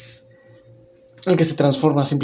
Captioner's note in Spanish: Silencio